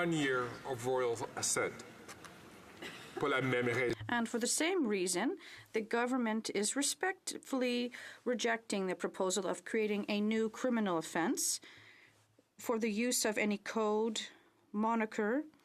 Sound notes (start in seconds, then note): 6.8 speaking French